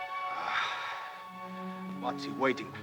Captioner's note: Ramirez sighs